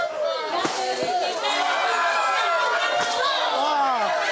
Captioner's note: cheers and shouting